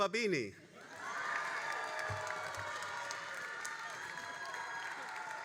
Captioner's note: all applauding and cheering